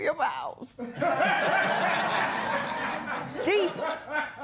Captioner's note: laughter